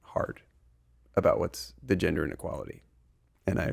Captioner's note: murmur